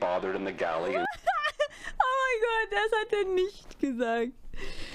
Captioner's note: laugh